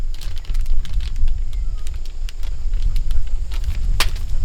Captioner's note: clanking